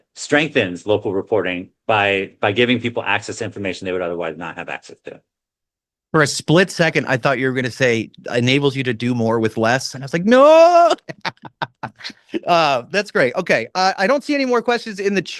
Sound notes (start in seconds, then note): 10.4 laughs